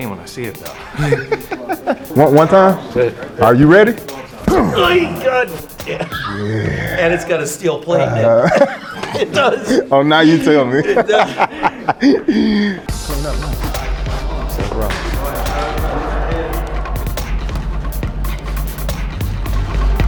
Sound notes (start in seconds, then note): 0.6 Spice laughing; 6.0 Spice and trainer grunting; 8.1 Spice and trainer laughing; 12.0 laughing; 12.9 upbeat electronic music